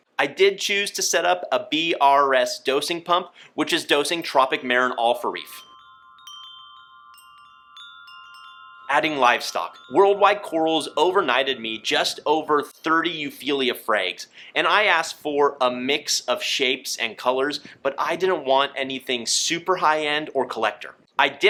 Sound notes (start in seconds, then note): 5.6 winds chimes chiming